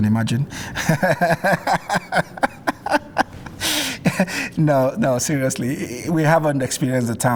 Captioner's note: laughs